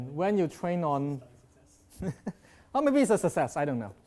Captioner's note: chuckles